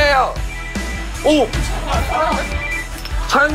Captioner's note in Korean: 삐로로록 / 삐로록 / 삐로로로록